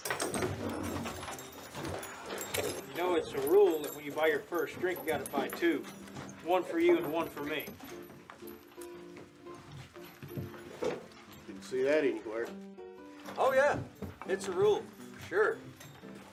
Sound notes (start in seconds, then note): none